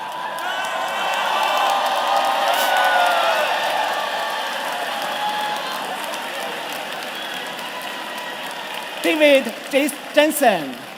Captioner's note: cheers and Applause